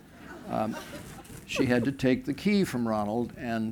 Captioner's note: laughter